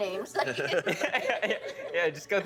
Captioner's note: all laughing